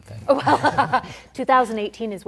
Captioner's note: laughter